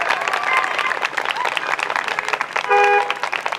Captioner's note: audience cheers; horn honks